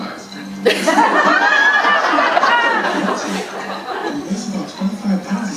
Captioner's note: audience laughing